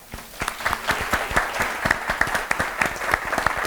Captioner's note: applause